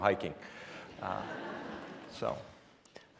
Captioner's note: laughing